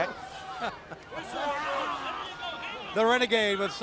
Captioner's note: crowd chatter